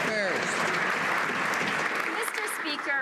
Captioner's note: some Applause